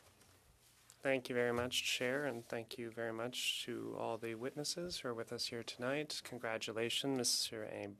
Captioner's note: speaking French